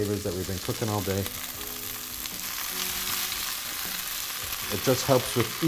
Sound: oil sizzles

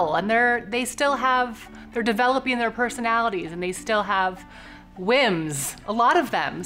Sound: none

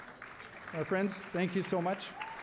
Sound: cheering and applause

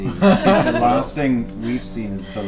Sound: all laugh

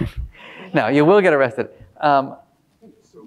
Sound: laughing

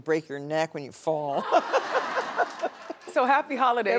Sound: audience laughing

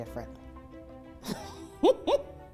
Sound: laughter

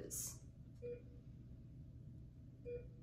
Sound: beeping

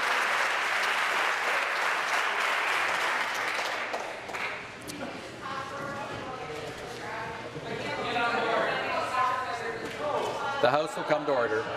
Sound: applause

